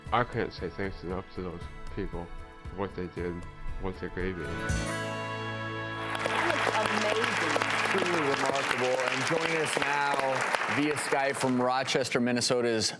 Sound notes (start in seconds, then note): 5.9 applauding